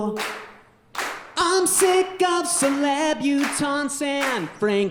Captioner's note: audience clapping